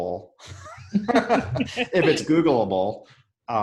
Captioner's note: laughing